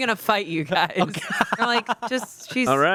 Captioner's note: everyone laughs